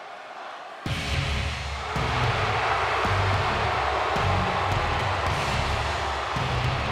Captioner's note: crowd boos